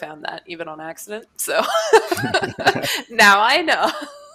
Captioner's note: laughter